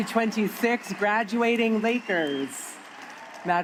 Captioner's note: applause